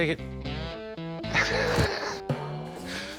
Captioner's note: laughing